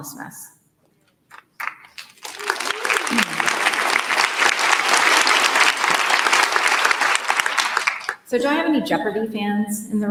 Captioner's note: applause